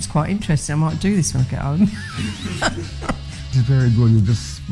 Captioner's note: laughs